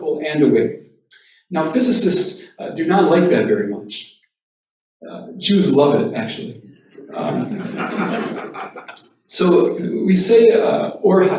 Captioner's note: laughter